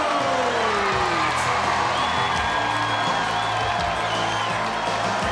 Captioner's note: crowd cheering